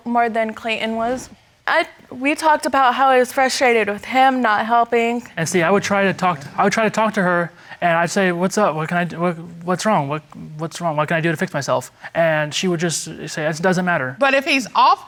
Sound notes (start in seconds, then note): 6.0 stammering